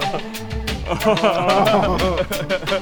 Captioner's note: laughs playfully